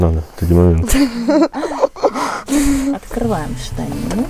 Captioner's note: giggling